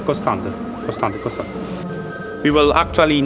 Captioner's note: both speaking Italian